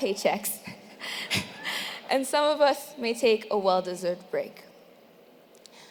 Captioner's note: laugh